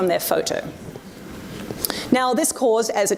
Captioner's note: audience murmurs